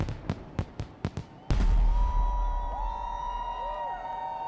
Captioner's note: all cheering